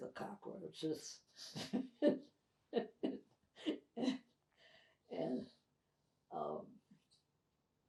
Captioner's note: laughing